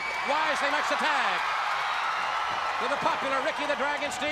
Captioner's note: crowd cheering